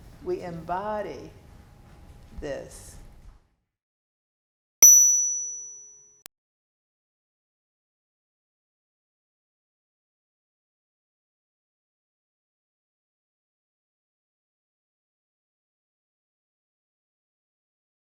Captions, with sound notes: We embody this. (bell dings)